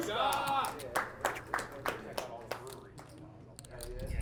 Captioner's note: crowd clapping